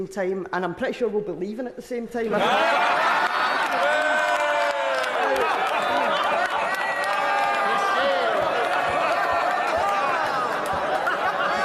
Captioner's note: dissent and laughter